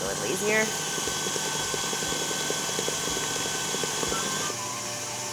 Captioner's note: mixer whirring